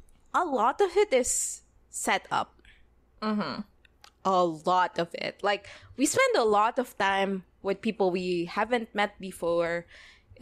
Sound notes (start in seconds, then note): none